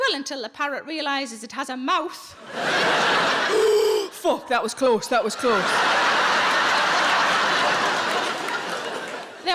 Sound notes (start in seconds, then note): 2.4 audience laughs; 3.5 inhales deeply; 5.0 audience laughs